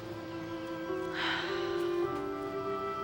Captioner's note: sighs